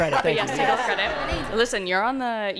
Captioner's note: laughter